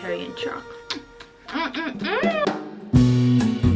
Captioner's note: smacks lips, mwah; upbeat music